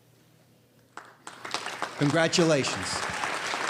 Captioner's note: applause